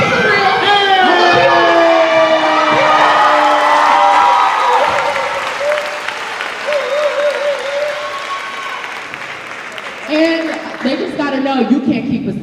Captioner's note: cheering